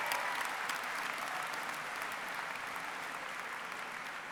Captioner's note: cheering and applause